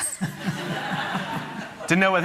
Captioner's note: laughter